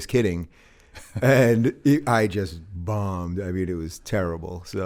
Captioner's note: chuckles